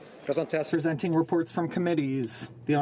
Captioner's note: speaking French